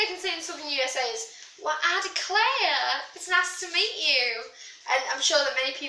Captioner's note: bad Southern USA Accent